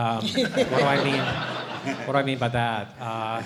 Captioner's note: laughter